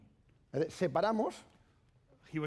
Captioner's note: speaking spanish